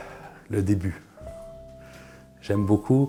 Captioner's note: sighs